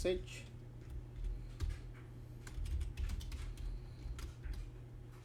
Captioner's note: typing